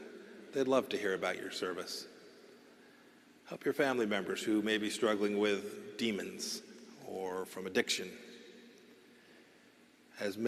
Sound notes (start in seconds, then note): none